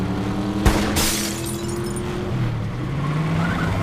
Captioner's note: gun firing; window shattering; tires squealing